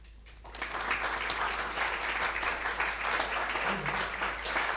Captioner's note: crowd applause